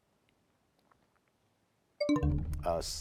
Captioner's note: bell chimes, time expires